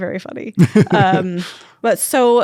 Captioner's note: laughs